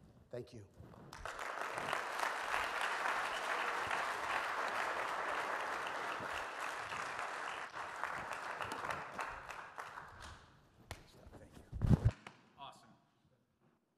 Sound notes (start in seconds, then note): 1.3 audience claps